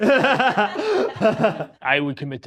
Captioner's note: both laughing